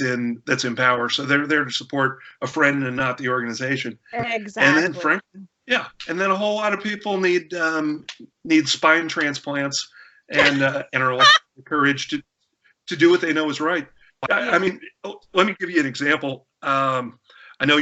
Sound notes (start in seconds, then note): 10.3 laughter